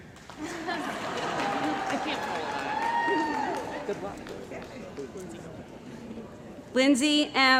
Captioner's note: cheering & Applause